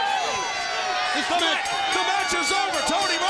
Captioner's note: bell rings